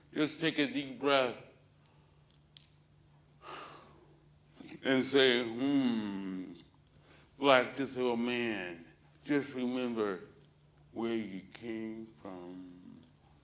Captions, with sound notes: Just take a deep breath [breathes out] and say ummmm Black disabled man, just remember where you came from